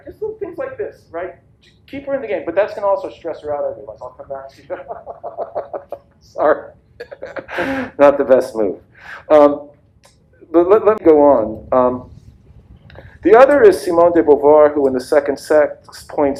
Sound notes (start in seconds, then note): 6.9 laughs